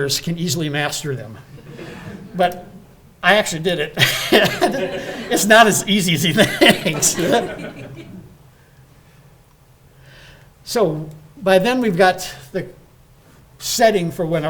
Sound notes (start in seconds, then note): 4.0 laughing